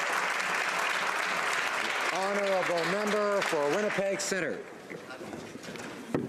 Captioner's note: applause